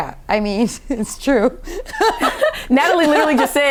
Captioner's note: chuckles